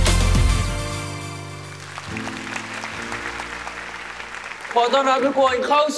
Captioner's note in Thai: ปรบมือ